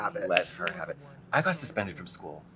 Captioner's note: snapping fingers